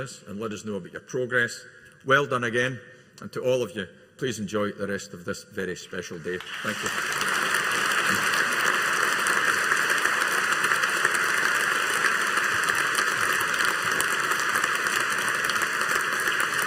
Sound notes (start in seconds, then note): 7.4 audience applauding